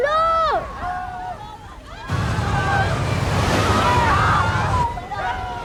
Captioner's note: people screaming